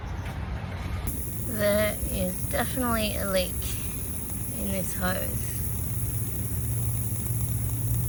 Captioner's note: hissing and bubbling noise